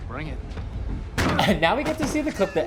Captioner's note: body thud; head bumps